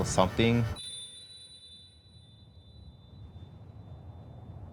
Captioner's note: bell chimes